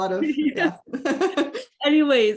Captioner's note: laughs